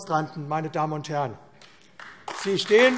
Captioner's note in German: Beifall AfD